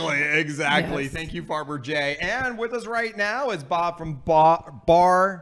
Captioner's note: stutters